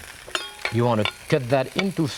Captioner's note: knife clanging